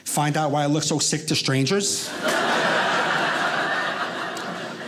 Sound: audience laughing

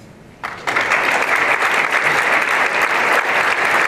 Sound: applause

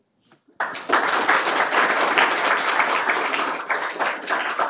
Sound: applause

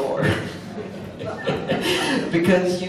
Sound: audience laughs

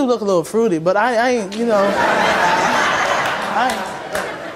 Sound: audience laughs

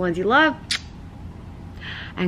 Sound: kissing sound

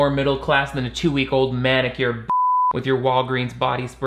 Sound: beep

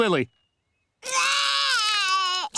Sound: crying

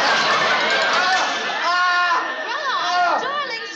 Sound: screaming

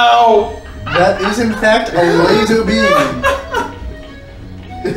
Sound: cracks up

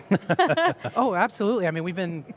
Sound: laugh

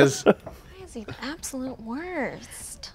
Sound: laughs

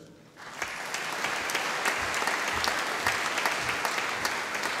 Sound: audience applauding

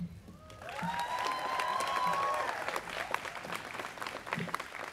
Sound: students cheering

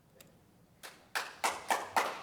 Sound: applause

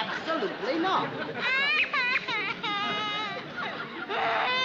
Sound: Katie crying; sobbing loudly

